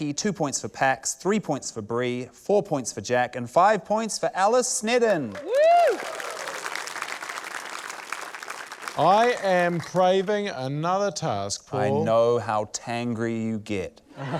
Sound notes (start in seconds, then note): 5.3 cheering, applause; 14.1 laughter